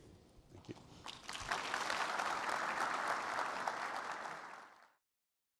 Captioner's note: applause